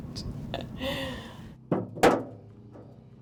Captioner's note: laughs